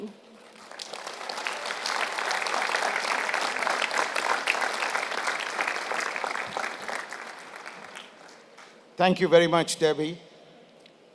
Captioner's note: applause